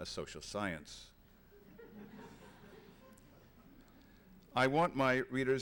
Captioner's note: laughter